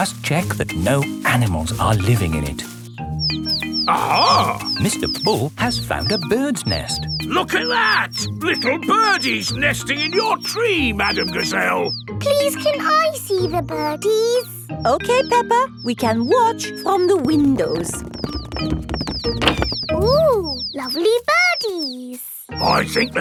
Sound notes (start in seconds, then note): 3.5 chirping